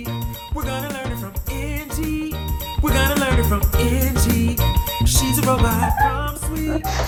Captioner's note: laughter